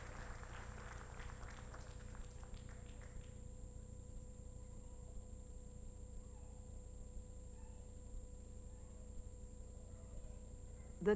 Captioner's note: applause